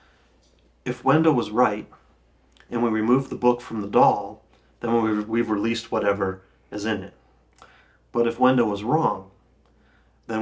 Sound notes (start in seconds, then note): none